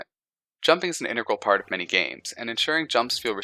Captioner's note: Sad Pokémon noises